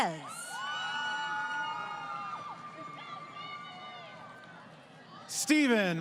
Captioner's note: crowd Cheering